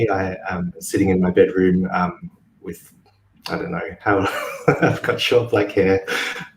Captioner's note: chuckles